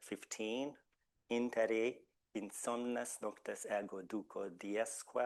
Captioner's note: speaking Latin